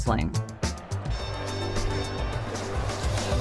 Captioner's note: bell dings